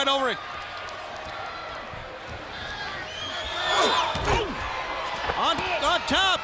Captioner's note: crowd chatter